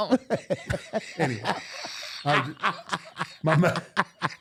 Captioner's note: laughing